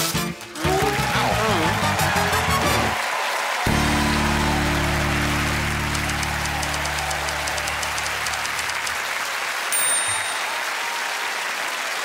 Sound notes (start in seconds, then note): 2.3 cheering and applause; 4.5 audience applauding; 6.0 typewriter keys clacking; 8.9 audience applauding; 9.7 typewriter dinging